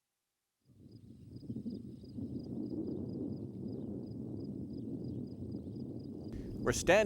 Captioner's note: wind howling; insects chirping